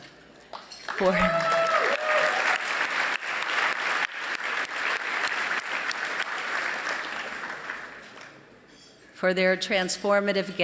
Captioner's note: applause